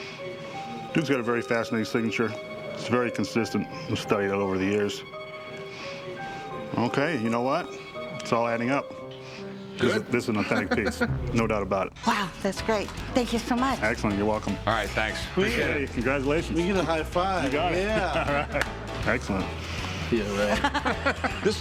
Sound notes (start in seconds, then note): 9.8 laughs; 17.8 laughter; 20.3 laughter